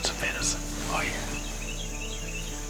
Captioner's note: whispering